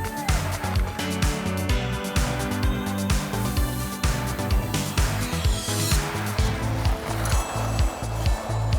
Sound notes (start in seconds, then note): 3.0 skates scraping ice; 3.2 hairspray spraying